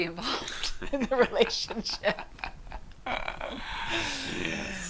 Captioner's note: laughter